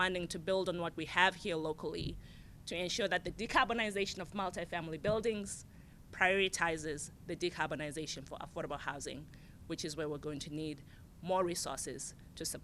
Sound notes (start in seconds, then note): none